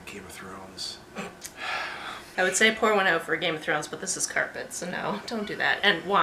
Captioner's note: snort/sigh